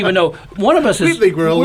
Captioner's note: all laugh